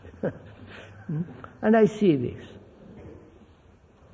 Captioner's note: laughter